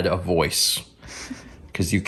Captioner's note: soft laugh